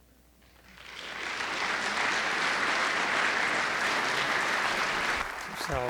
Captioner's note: audience applauding